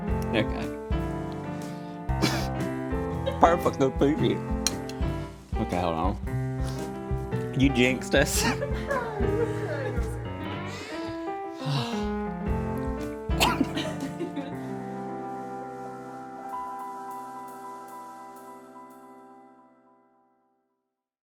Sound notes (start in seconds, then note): 2.2 laughs; 10.6 sighs; 13.4 laughs